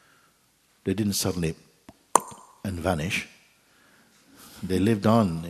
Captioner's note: makes a popping sound